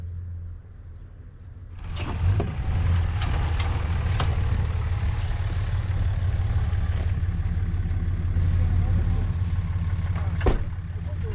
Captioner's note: motor running